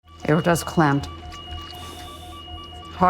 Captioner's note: heart rate monitor beeping rapidly